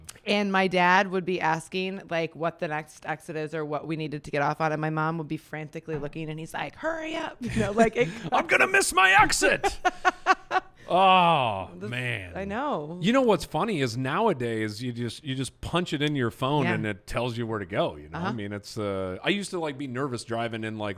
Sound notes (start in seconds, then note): 9.4 laughs